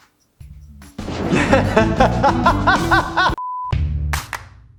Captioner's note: laughs; upbeat music and whistling